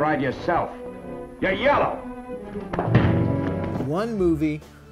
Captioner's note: punch thudding